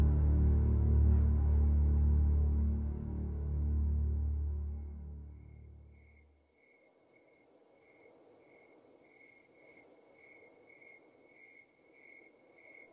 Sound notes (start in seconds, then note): none